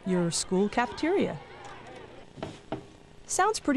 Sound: chattering

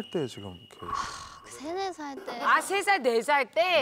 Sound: sighs

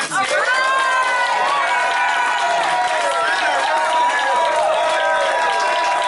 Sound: very loud applause and cheering

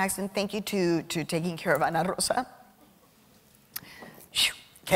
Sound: voice quivering

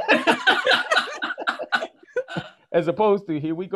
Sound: panel laughs

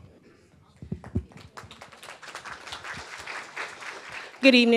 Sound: attendees clapping

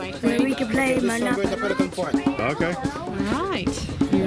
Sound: everyone talking excitedly; voiceover

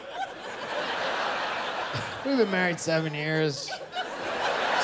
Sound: laughter

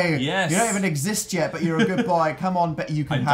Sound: laughs

